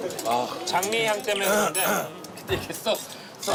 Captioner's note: clears throat